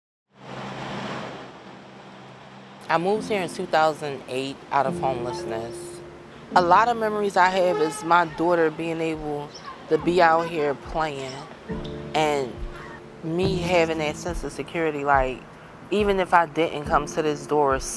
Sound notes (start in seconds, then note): 0.7 traffic bustling